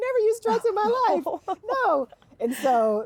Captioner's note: laughing